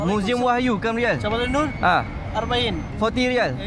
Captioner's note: speaking Arabic